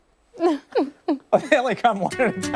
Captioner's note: laughter